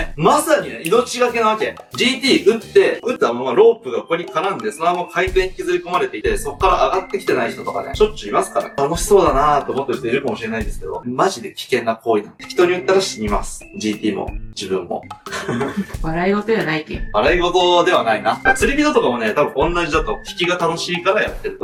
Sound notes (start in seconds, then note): 15.4 laugh